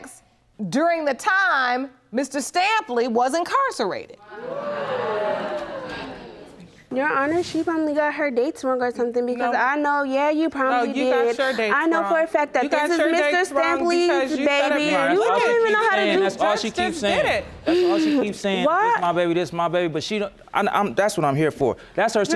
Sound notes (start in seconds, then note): 4.3 audience gasping